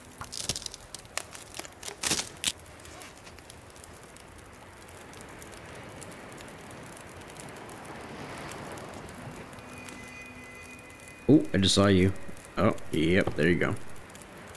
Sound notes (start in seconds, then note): 0.0 sticks Breaking; 5.1 fire Burning